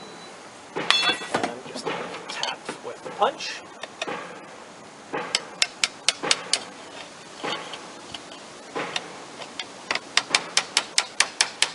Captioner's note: tapping